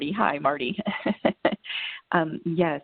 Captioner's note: laughter